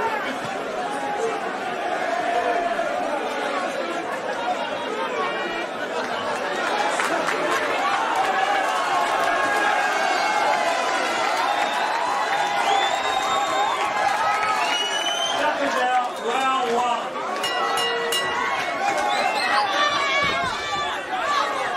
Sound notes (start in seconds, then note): 6.9 clapping and cheering; 12.9 whistling; 17.3 bell ringing; 18.7 crowd cheering